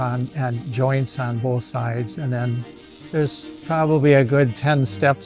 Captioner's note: solder tool sizzling